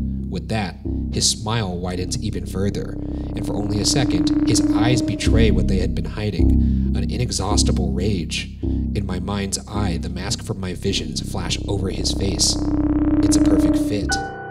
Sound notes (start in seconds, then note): none